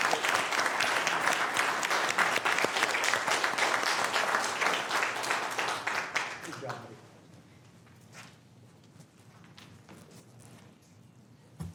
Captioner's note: applause